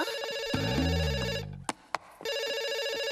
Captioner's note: ring